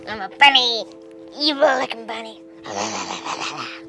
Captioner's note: funny voice